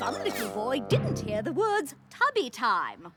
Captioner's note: squeals